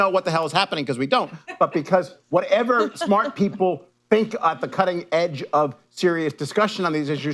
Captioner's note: laughter